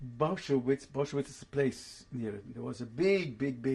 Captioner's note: german